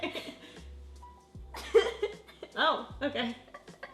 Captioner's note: laughs